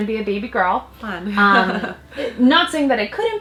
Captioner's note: laughs